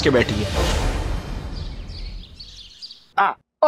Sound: birds chirping

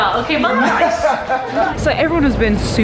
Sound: laughing

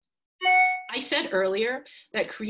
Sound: beeping sound

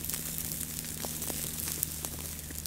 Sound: quail meat sizzling

